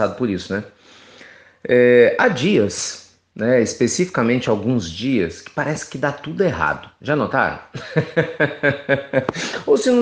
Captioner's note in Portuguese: Risos